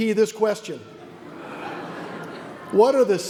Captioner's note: audience laughs